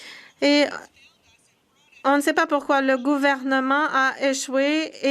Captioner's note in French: voix de l'interprète